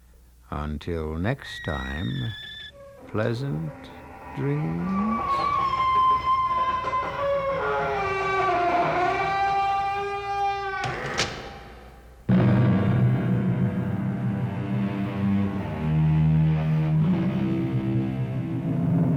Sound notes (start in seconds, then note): 4.9 door creaks; 8.8 loud creaking continues; 14.0 door closes